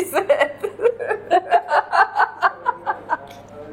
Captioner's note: laughs